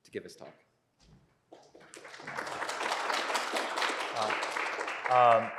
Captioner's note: applause